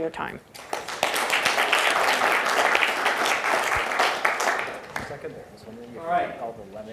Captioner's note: audience clapping